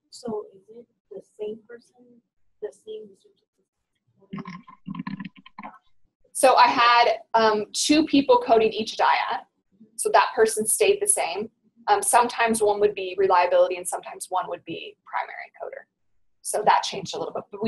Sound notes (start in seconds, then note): 0.3 voiceover; 6.5 voiceover